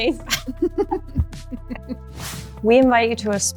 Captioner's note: laughs